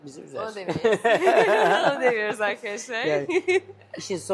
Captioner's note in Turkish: kahkaha